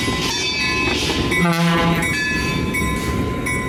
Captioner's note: horn